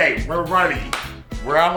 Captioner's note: claps hands